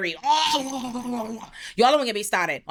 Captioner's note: gagging